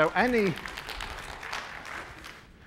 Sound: applause

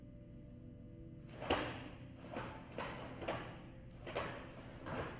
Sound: clothes slapping

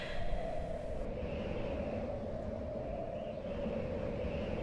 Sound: air whooshing

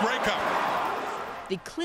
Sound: cheers and Applause

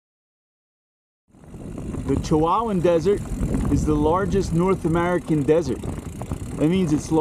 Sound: wind noise, bike whirring

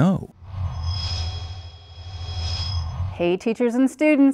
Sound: sound Effects

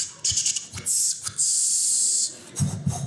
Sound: mimics chopping sound; mimics grilling sound

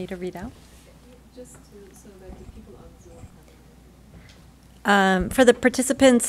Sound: speaks faintly

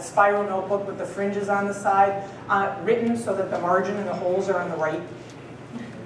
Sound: laughter

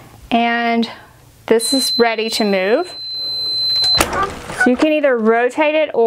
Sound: machine beeps

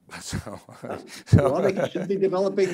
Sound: chuckles

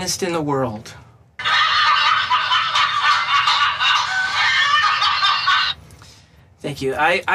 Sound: laughter

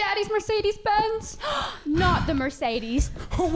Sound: gasp

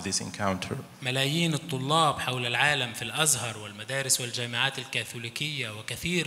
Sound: speaks in foreign language

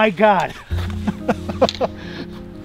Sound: laughs

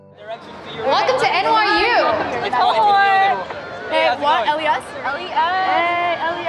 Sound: students chatting

